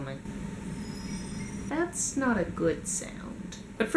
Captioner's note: high pitched squeal